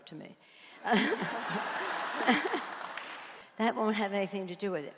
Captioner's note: audience applauds